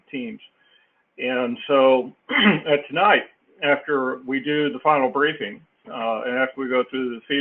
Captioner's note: cough